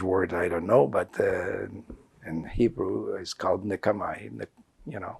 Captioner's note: hebrew